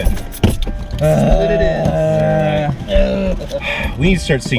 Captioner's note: disgruntled moans